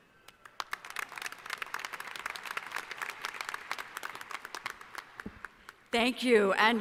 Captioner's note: applause